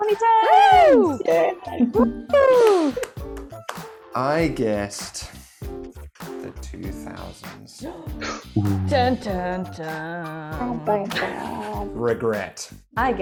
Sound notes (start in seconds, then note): 0.4 people cheering; 8.5 people gasping